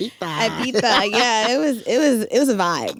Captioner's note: laughs